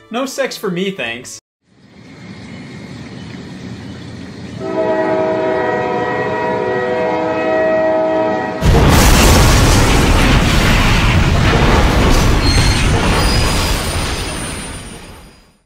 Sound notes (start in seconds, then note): 1.7 train rumbling; 4.6 train horn; 8.6 crashing; 12.5 brakes squealing